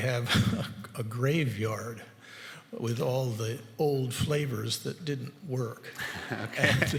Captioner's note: laugh